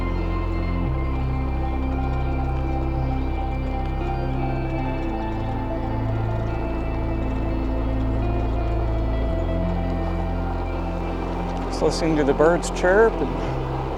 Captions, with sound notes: [birds chirping] Just listening to the birds chirp and...